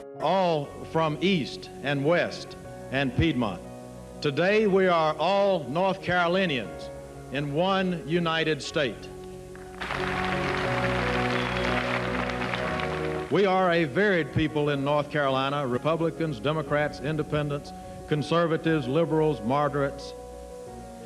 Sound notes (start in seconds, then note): 9.5 upbeat music continues; 9.6 audience applauds